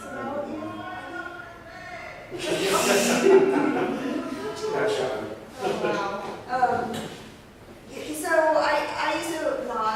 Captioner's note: laughs at still shouting outside